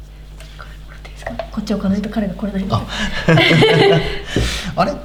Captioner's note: laughs